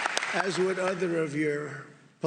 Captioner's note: applause